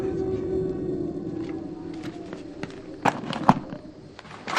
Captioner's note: items rattle